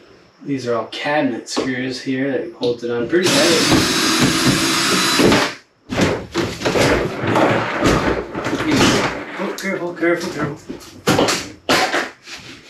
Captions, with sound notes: these are all cabinet screws here that holds it on pretty heavy [drilling soud]